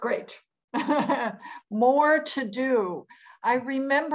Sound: laughs

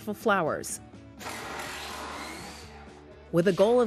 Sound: whirring

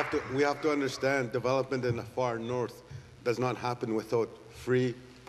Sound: applause

